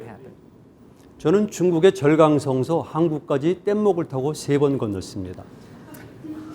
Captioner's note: speaking in Korean